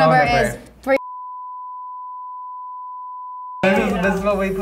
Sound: beep

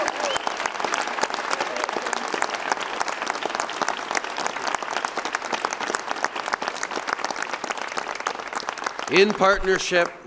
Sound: cheers and applause

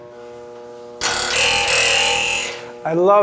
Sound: spring noise

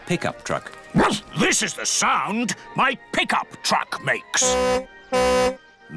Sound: barks; tooting

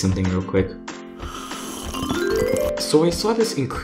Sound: drinking

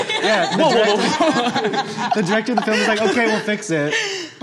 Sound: all laughing

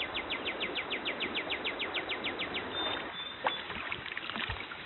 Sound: water rushing, birds chirping

